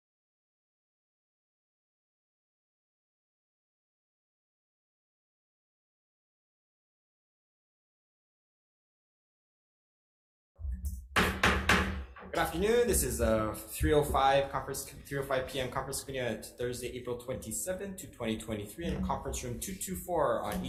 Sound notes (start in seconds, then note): 11.1 gavel thudding